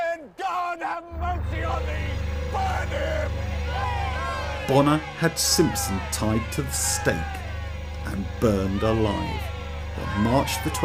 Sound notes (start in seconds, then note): 4.0 crowd screams